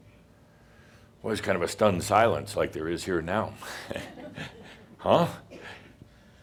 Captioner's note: Adamus chuckles